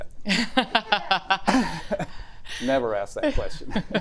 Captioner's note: laughs